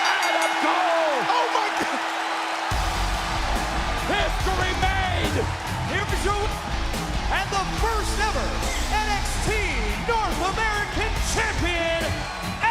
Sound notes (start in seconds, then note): 5.4 bell ringing